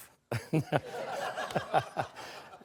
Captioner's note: laughter